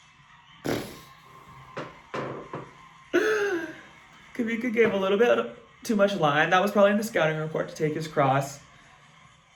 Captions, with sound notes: (lip bubbles) (chuckles) Kawika gave a little bit too much line. That was probably the scouting report to take his cross.